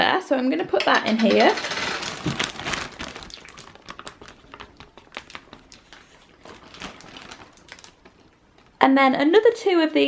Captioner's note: pouring and splashing sounds